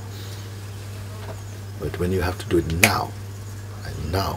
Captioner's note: snaps a finger